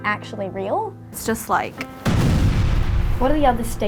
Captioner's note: explosion booms